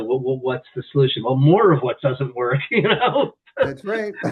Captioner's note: laughs